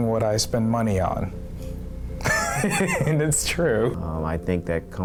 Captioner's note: laughter